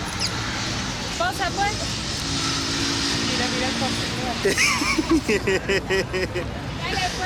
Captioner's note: laughs